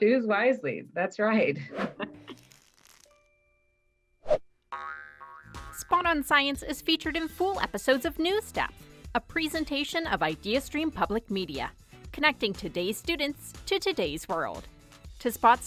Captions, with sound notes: - Choose wisely, that's right. (logo crackles) (upbeat music)